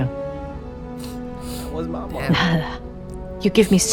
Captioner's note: sniffle; sob